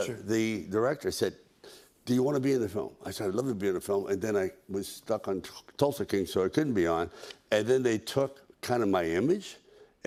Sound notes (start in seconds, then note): none